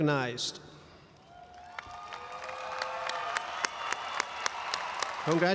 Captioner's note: audience applauds and cheers